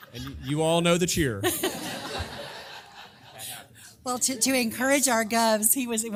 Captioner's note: laugh